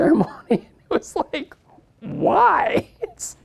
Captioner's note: laughs